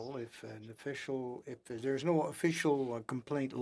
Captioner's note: speaking French